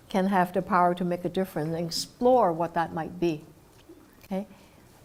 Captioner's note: none